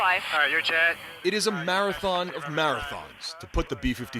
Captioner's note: voice-over